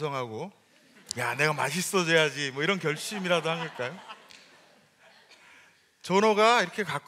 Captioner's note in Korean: 웃음